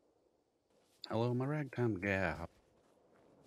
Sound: sing-Song

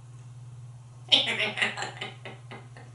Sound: laughing

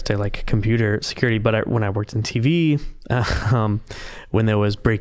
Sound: chuckling

